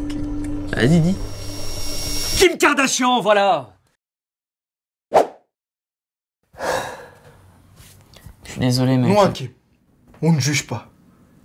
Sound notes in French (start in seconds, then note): 6.5 Soupir